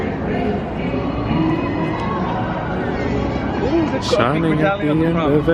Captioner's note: people chattering